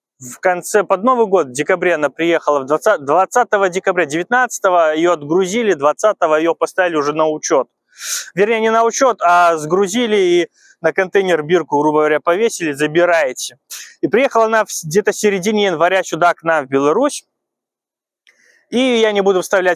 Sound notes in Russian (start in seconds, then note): 8.0 тяжело вздыхает